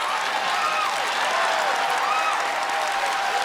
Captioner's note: cheers and applause